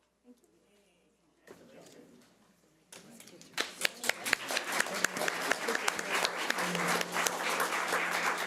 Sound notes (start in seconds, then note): 3.6 audience applause